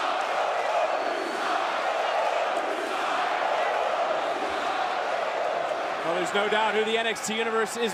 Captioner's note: crowd cheering